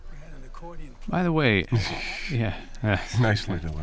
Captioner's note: chuckles